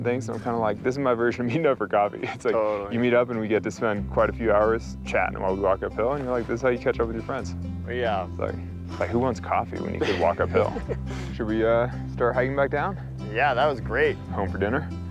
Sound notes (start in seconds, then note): 9.8 laughing